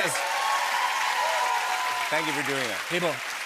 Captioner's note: cheering and applause